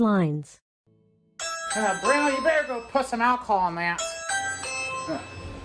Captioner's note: ring doorbell goes off